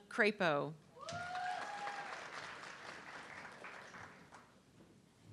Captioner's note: audience clapping